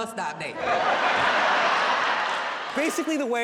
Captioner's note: audience laughs